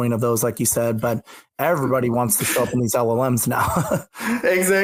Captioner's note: laughs